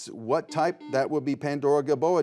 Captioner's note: buzzer buzzes